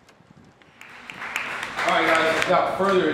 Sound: crowd applauding

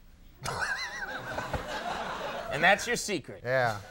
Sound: Conan laughing; audience laughing; audience laughing

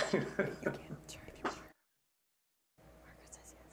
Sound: laughing

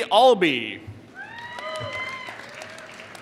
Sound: applause

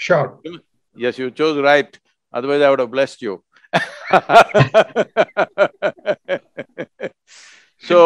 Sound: laughs

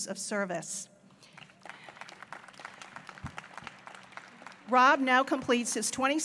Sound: applause

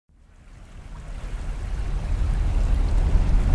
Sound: water running

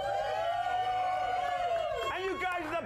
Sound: audience cheering

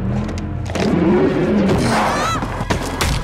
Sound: car engine roars; screams; yelps

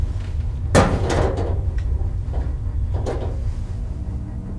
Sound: metal cover clanks

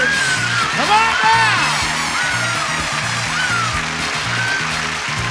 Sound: audience applauding

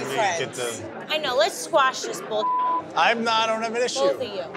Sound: beep

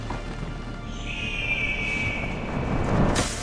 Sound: eagle screech

